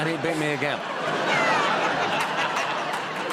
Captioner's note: laughter